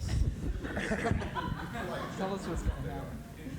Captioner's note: laughter